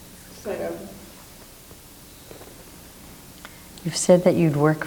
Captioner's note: woman speaks off mic